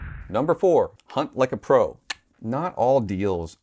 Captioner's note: clicks